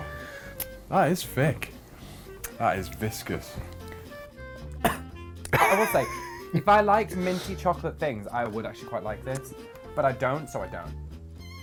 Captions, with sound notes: - That is thick. That is viscous. (coughs) (laughs) - I will say, if I liked minty chocolate things I would actually quite like this but I don't, so I don't.